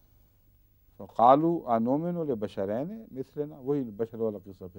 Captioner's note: Arabic